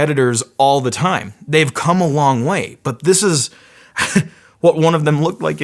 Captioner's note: laughs